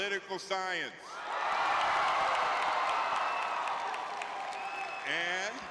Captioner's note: audience cheering